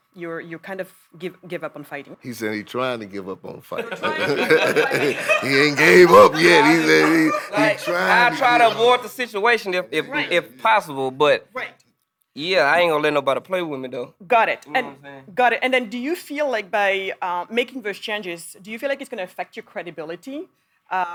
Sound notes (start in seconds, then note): 3.8 group laughing